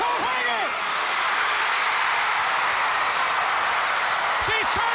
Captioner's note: crowd cheering